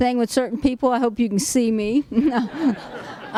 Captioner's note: laughs